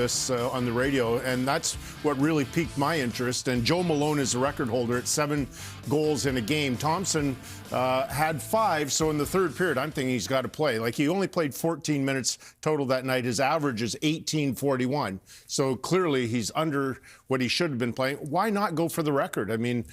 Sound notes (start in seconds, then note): none